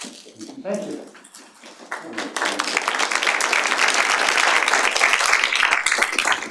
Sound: audience applauds

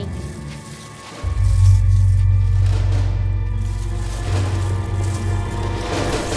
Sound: foliage rustling; tense music

